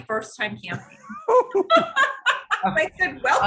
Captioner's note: laughing